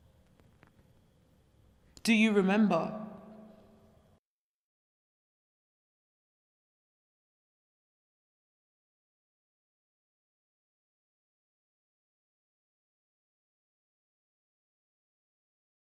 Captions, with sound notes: Do you remember? [silence]